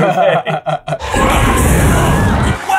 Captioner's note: laughs